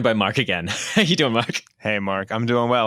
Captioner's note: laughs